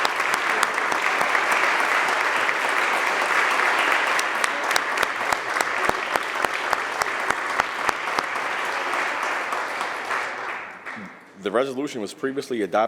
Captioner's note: applause